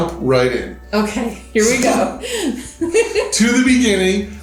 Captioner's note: chuckling